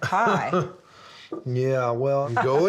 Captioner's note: laughs